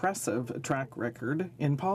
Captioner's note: speaking French